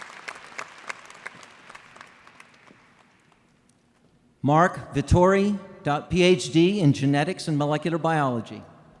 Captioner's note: applause